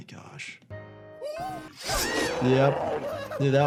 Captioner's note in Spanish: Nutty jadea, grita